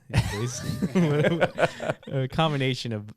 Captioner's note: laughing